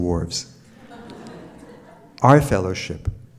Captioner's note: audience laughs